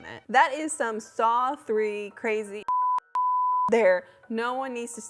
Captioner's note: beep